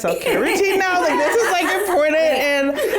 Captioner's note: all laugh; laughs